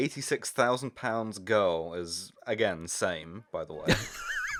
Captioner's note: laughter